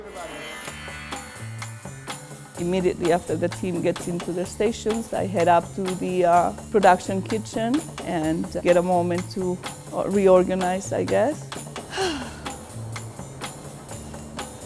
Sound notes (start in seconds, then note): 11.8 sighing